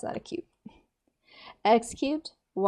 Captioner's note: softly exhales